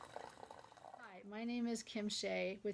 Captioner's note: sound of tea kettle whistling